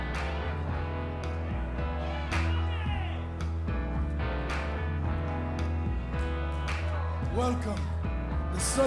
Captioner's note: crowd chatter